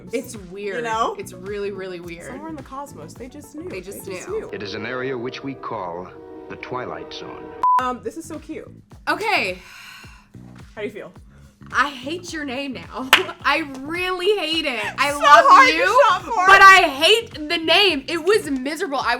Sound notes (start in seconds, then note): 7.6 beep; 10.0 sighs; 13.6 laughs